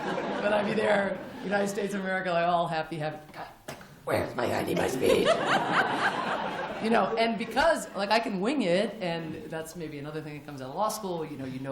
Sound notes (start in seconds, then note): 0.0 laughter; 3.8 rough voice; 5.0 laughter